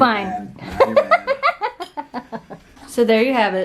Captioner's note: laughter